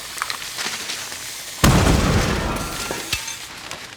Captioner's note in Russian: взрыв